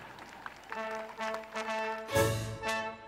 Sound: audience laughs/applauds

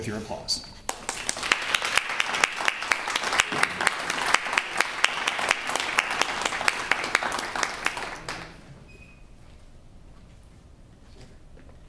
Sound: applause

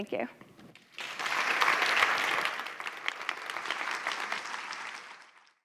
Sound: applause

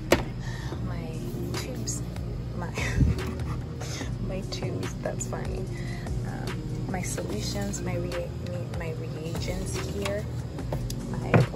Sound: giggles

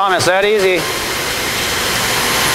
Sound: sound of machine

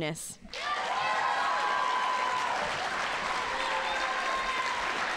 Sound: audience applauding

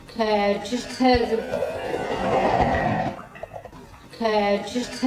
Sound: guttural breath and growl

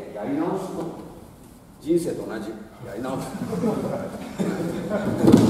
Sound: laughs

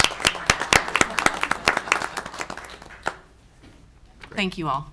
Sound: audience applauding

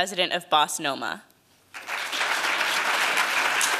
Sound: applause

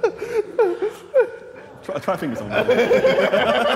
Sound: JJ laughing

